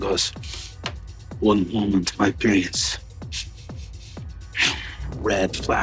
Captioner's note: huffs; sniffing